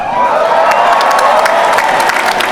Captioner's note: applause